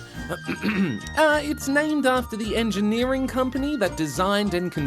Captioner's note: clears throat